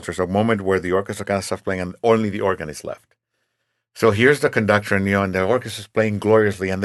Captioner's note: none